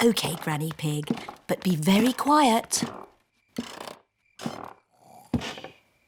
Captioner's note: stairs creak softly; both snore